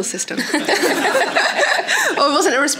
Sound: audience laughs

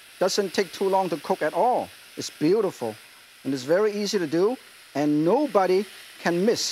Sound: none

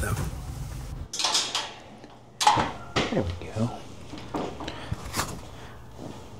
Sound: door clattering

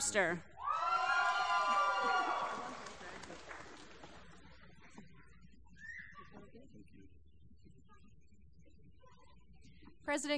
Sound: cheering

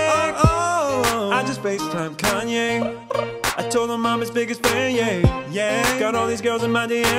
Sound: blip, blip

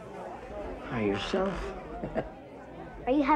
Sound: chuckles

